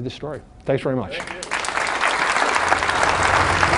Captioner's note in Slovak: Potlesk